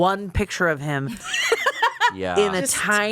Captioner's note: laughs